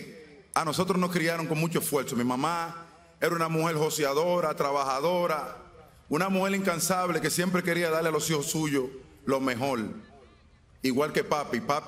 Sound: speaking spanish

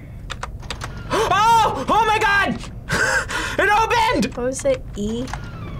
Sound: gasps

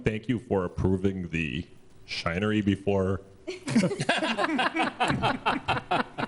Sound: laughter

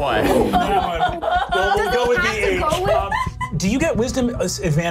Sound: all laughing

